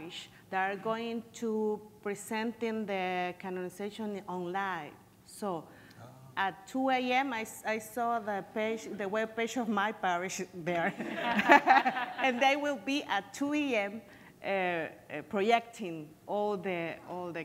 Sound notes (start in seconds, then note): 11.0 laughing